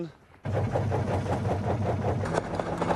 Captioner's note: rattling